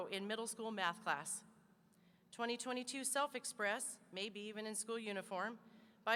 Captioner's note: none